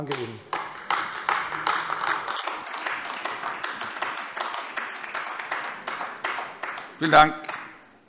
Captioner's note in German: Beifall AfD